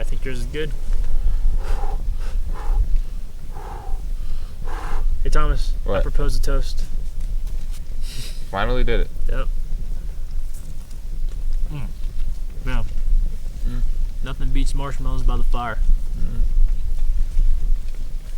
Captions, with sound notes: Yeah, I think yours is good. (Thomas blowing fire out) Hey, Thomas. - What? - I propose a toast. - Finally did it. - Yep. Mm, yeah. - Mm. - Nothing beats marshmallows by the fire. - Mm.